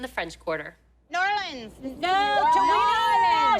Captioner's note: cheering